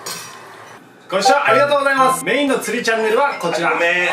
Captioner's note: ringtone